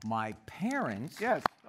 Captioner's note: applause